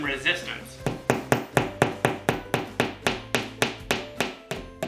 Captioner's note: hammering